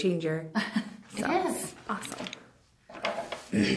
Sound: laughs

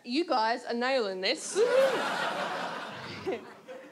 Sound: audience laughs

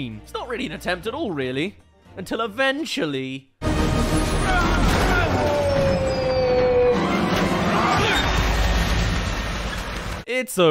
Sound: crash

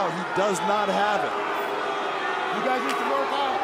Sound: crowd jeering

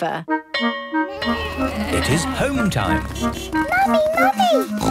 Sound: bell clanging; honking

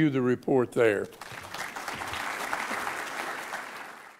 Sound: audience applauds

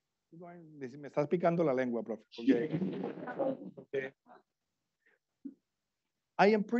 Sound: foreign language 01:16:13

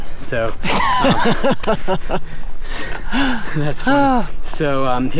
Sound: laughs

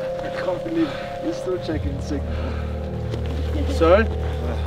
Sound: laughing

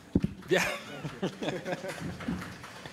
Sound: applause

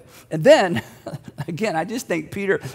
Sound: giggling

